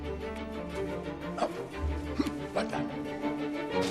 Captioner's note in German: Grunzen